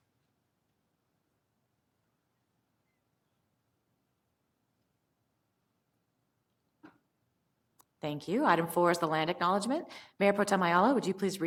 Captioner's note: moment of silence